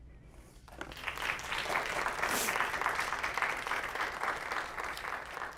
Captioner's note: audience applauding